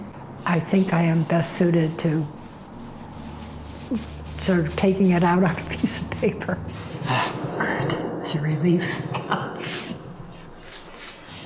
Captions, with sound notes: I think I am best suited to sort of taking it out on a piece of paper. Ah, good. That's a relief. [ Chuckles ]